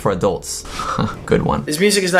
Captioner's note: laughs